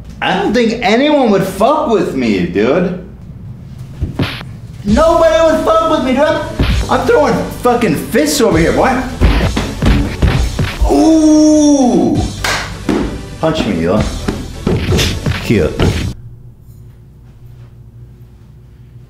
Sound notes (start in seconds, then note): 4.2 punching Sound; 9.0 boom; 9.5 blam; 12.3 slap; 12.3 clap